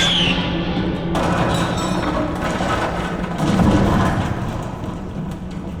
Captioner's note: clattering